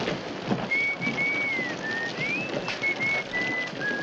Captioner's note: whistling